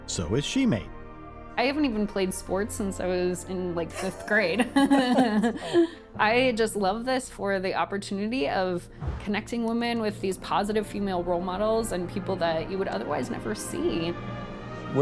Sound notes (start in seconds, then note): 3.9 laughs